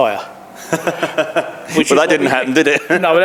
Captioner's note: laughing